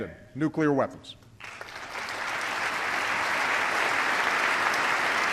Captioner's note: applause